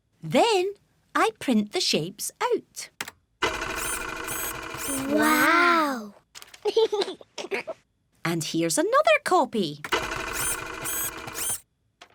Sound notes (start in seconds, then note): 3.4 printer whirring; 6.6 giggles; 9.9 printer whirring